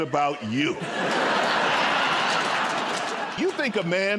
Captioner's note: laughter